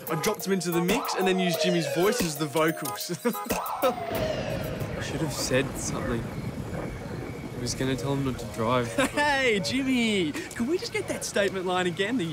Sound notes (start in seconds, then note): 0.0 horns toot; 0.0 sirens blare; 3.8 thunder cracks